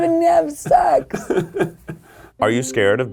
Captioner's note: laughing